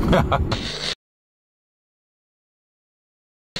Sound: laughter

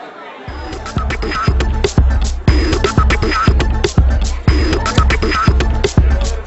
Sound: audience chattering; upbeat electronic music

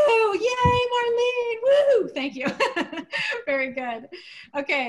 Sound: laughter

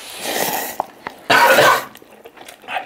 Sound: cough

